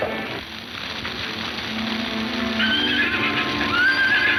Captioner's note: horses whinnying